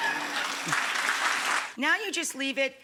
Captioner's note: audience applauds